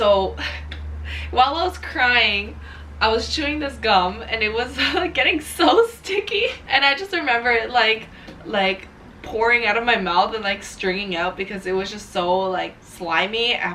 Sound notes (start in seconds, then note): 4.6 laughing